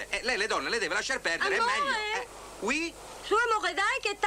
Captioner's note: they speak French